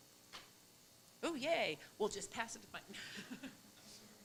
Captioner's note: mutters